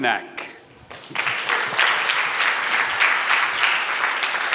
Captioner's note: applause